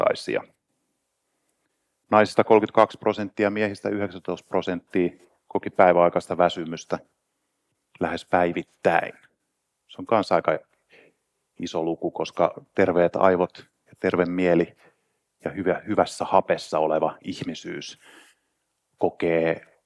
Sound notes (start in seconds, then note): none